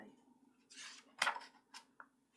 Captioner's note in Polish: szelest kartki